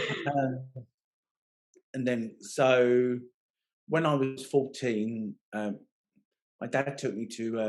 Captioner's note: laughing